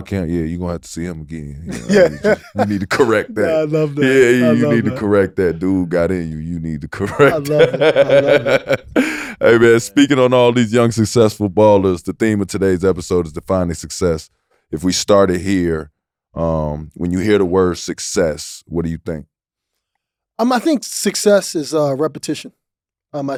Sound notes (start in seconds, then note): 1.6 Cuttino laughing; 7.0 laughing